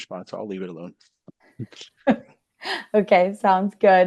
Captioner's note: laughing